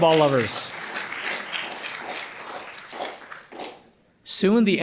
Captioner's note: audience applauding